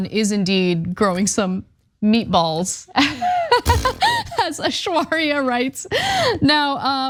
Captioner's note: laugh